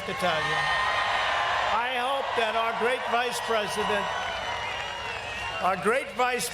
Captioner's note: cheers and applause